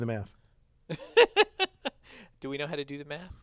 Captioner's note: laugh